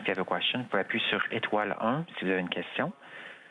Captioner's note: speaking French